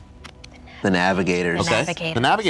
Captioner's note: whispering